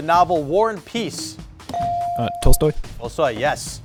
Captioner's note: buzzer chimes